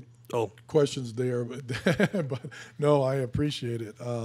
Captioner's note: laughing